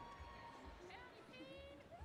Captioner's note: applause